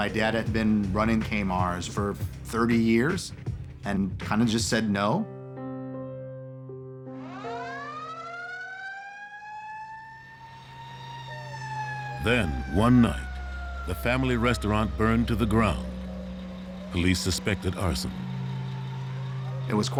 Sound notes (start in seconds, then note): 7.7 sirens blaring